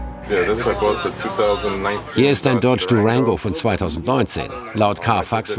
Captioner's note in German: englisch